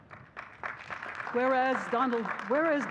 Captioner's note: audience clapping